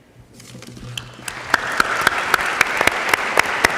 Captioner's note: applause